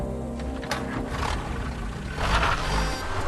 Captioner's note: sound of an engine